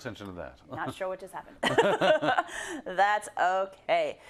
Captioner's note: laugh